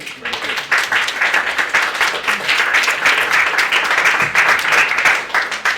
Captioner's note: group clapping